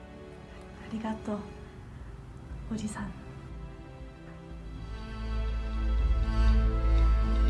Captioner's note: Michiko speaking in foreign language; dramatic orchestral music